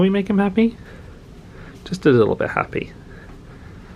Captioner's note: none